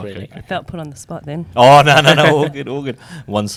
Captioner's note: laughs